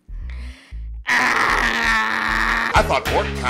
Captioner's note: Lindsay gives a long, pained scream/sigh